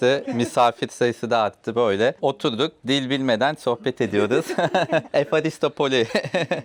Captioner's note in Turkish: kahkaha